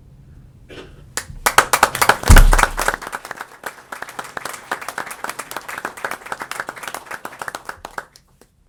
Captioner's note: applause